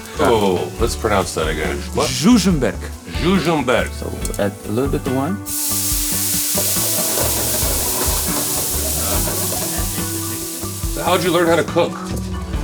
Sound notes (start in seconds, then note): 5.3 wine sizzling